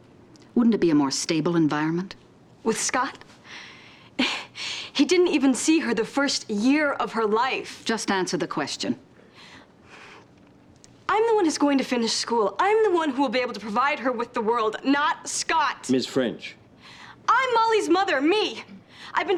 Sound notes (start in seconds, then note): 4.1 scoffs